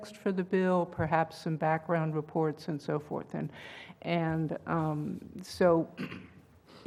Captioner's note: cough